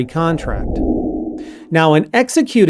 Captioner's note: air swooshing